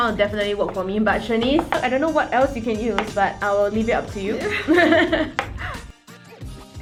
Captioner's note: laughs